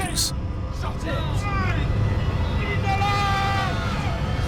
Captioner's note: muffled yelling